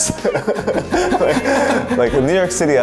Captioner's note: both laughing